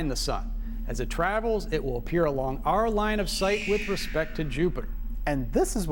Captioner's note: space noise